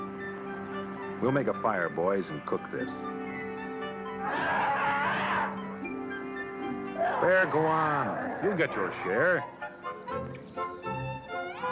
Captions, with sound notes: We'll make a fire, boys, and cook this. [snarling] Hey, go on. You'll get your share. [instrumental music]